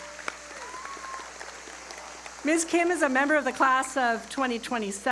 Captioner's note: applause